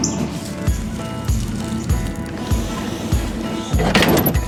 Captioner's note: leaves crunching; trailer hitch clicking